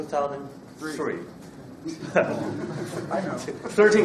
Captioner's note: laughs